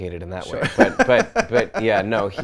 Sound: laughs

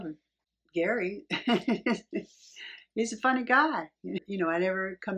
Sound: laughs

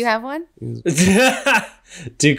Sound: laughs

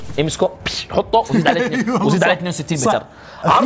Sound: laughs

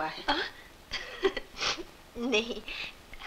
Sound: laughs

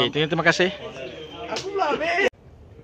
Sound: smack

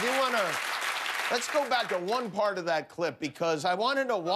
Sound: cheers and applause

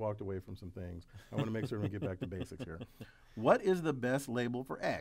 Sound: laugh

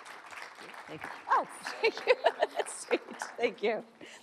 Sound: applauding; laughing

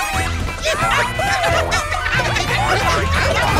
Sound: clucking

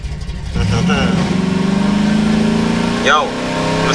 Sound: loud old motor sounds; extremely annoying motor sounds

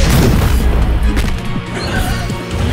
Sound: loud thud

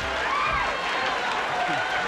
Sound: audience laughing

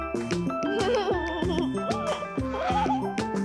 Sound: giggling

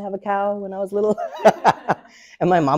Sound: and the audience laughs

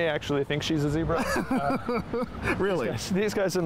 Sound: laughing

